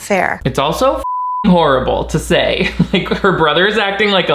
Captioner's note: beep